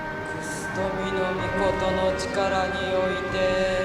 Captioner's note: chanting